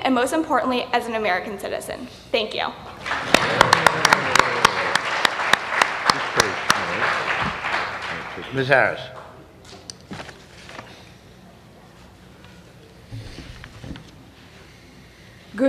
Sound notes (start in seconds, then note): 8.5 applause